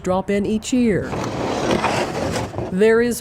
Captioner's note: boat scraping